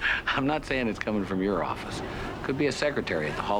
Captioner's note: chuckling